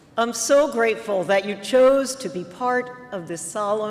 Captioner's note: none